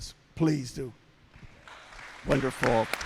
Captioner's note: applause